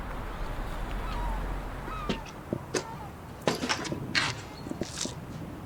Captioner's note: bird sounds